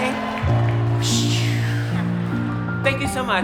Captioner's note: imitating wooshing noise